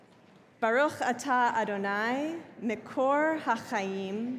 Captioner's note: speaking hebrew